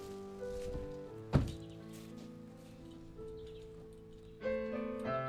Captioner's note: car door closes